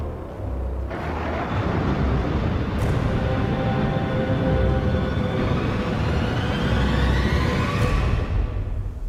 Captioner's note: twisted regeneration sound